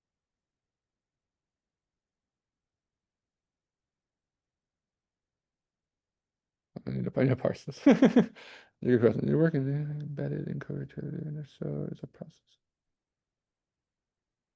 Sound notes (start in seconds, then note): 7.8 chuckles; 9.7 mumbling